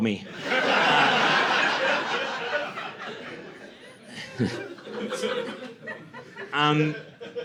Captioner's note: laughter